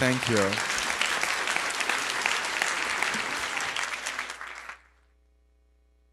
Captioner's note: audience applauds